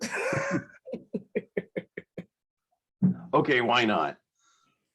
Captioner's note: all laughing